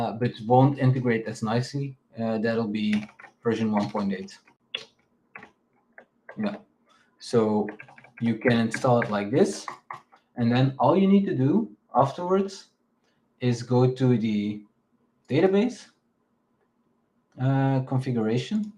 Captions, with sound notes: But won't integrate as nicely, that'll be version 1.8. (keyboard clacking) Yeah, so you can install it like this. And then all you need to do afterwards is go to the database configuration.